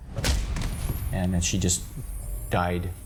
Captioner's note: blow thuds